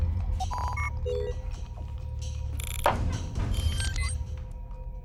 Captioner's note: electronics beep